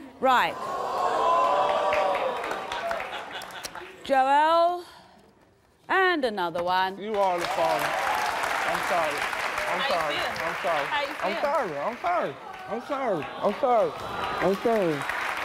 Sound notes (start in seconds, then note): 0.9 audience gasps; 7.8 audience applauds